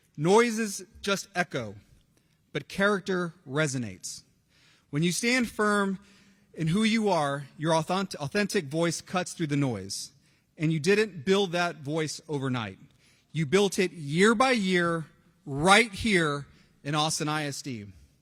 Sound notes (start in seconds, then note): none